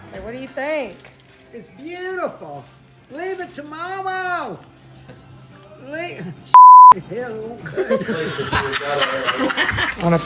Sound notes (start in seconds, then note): 6.5 beep; 7.6 laughter